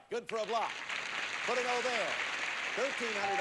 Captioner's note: audience applauding